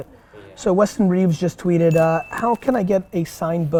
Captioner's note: bell dings